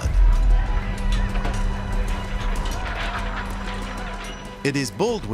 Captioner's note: clatter of swords